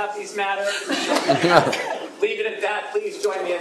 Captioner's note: laughter